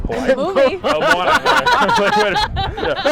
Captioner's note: laughs